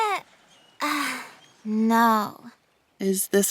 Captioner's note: sighs